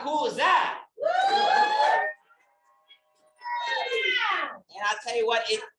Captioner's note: audience cheering